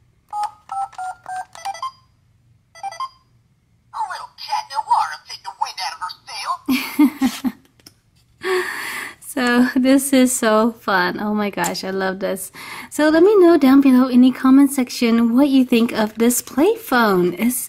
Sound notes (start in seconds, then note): 0.1 beeping; 6.6 voiceover laughs; 9.4 voiceover